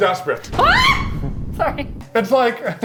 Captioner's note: screams